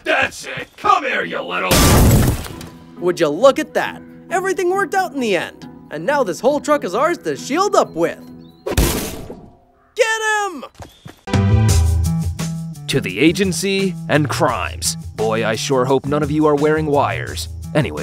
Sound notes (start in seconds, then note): 1.7 metal cranking; 8.8 metal clanking; 11.3 upbeat jazz music begins